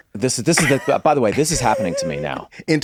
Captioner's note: laughs